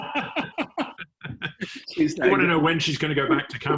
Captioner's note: laugh